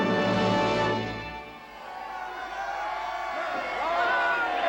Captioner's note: voices cheering